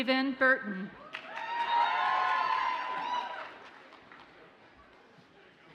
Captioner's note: audience cheers and applauds